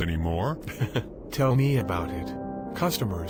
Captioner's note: chuckling